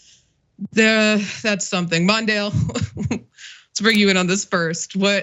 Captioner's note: laugh